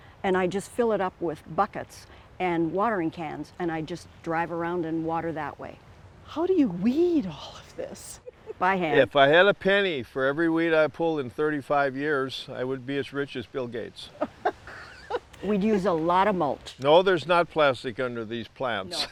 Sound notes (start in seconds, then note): 8.1 chuckles; 14.1 laughing; 18.6 laughs